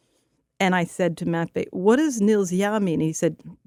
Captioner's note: speaking Russian; speaking Russian